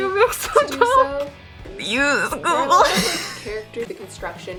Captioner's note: laughs